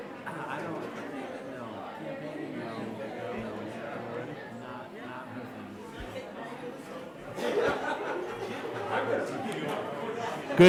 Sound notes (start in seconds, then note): 2.6 crowd chattering; 7.3 crowd laughing